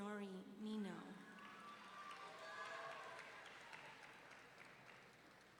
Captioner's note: audience cheering